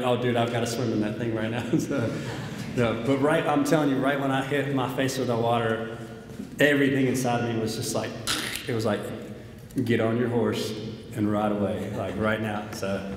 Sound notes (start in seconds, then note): 1.5 audience laughs; 8.3 sucks in saliva